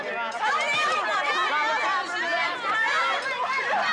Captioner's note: kids yelling